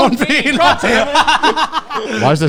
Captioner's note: everyone laughs